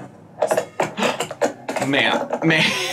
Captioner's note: camera crashing